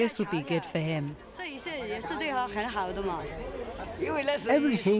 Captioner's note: speaking in foreign language